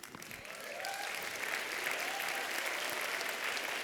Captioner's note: applause